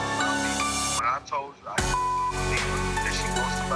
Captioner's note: beep